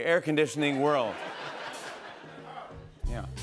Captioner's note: laughter